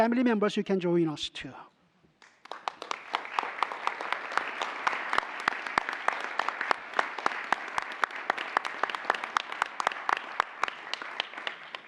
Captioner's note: applause